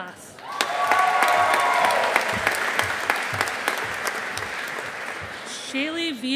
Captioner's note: audience applauding